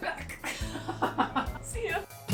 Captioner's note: laughs